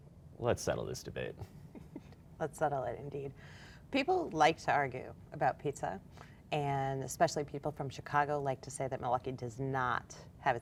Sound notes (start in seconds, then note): 1.7 laughs